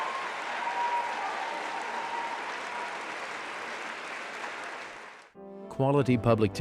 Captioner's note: applause